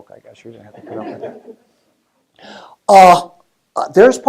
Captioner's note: laugh